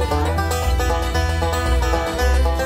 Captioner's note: none